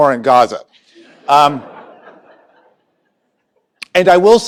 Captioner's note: laughter